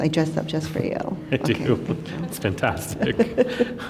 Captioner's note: laughs